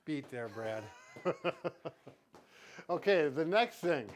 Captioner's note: laughs